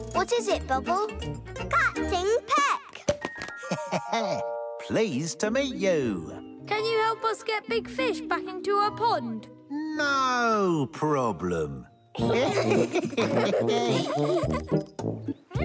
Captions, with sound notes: - What is it, Bobble? - Captain Peck. - (laughs) Pleased to meet you. - Can you help us get Big Fish back into her pond? - No problem. (all laughing)